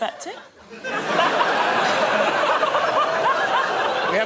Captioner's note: laughter